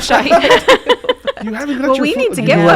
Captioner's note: laughing